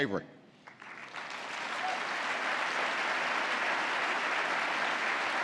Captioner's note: applause